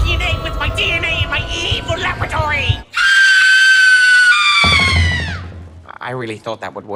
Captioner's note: woman screams